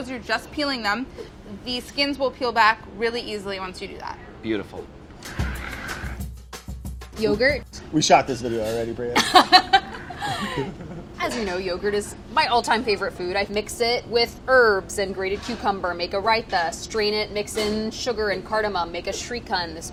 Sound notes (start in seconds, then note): 5.2 upbeat percussion music; 9.2 laughing